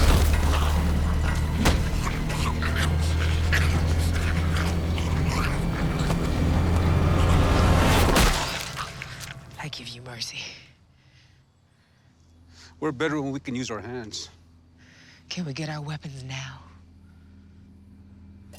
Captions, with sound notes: [frantic snarling] I give you mercy. We're better when we can use our hands. Can we get our weapons now?